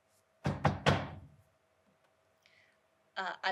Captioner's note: knocking